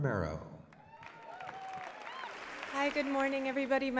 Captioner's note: applause